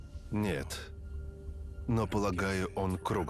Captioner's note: none